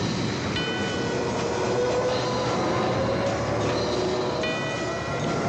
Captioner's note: airplanes screaming